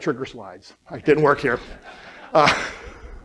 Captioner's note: laughter